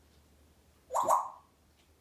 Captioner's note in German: water sound